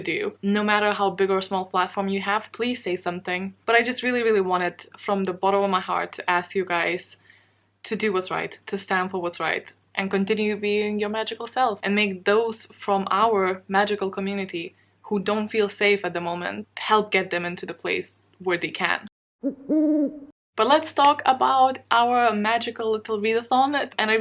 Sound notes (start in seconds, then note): 19.4 owl hoot